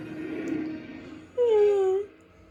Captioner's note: mimics the boot sound effect